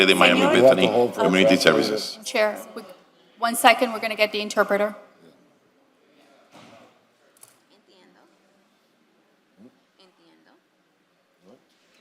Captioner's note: speaking non-english